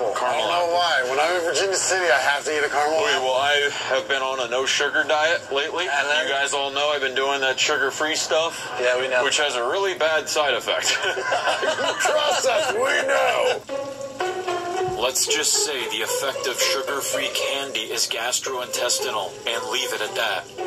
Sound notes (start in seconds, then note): 10.8 laughter